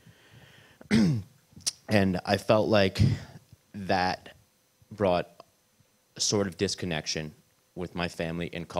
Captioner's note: clears throat